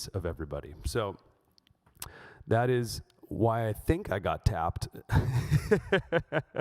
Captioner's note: laughs